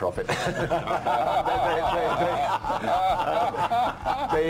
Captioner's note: all laughing; laughing